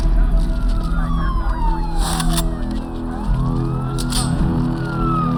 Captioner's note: police chatter, sirens